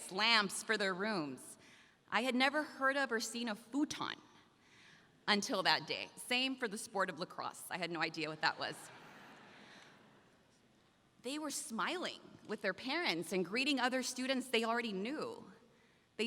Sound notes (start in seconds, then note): 8.9 audience laughs